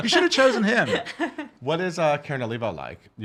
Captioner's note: laughing